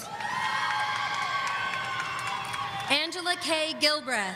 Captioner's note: audience cheering